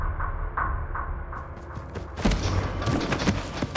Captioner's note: footsteps thudding; dramatic music